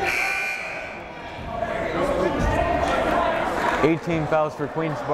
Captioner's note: timer buzzes